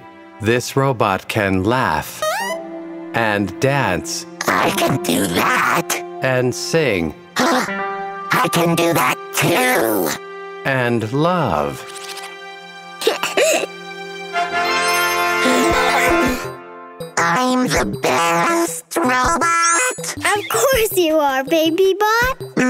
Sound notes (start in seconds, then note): 7.2 gasps; 13.0 giggling; 15.7 gasps